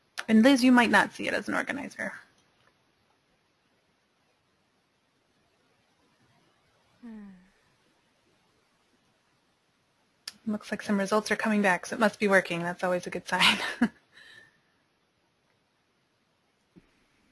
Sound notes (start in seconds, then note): 13.4 chuckles